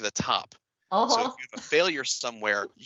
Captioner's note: laughs